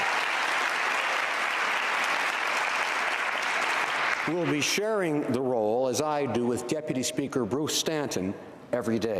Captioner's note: applause